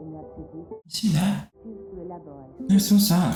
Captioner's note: bond groans